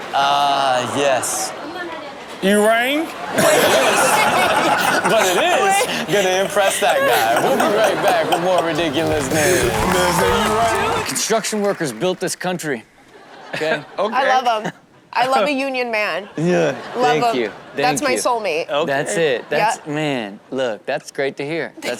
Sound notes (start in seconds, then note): 3.4 audience and hosts laughing